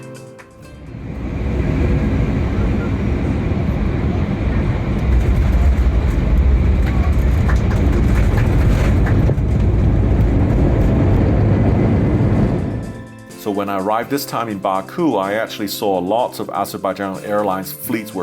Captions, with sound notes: (landing wheels hit tarmac) (passengers applaud) So when I arrived this time in Baku, I actually saw lots of Azerbaijan Airlines fleets